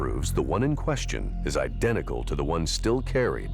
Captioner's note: none